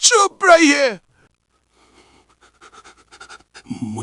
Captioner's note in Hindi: ज़मीन पर गिर पड़ता है, सिसकियाँ लेने लगता है